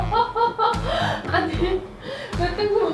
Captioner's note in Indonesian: tertawa